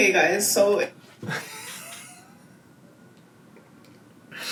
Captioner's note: laughs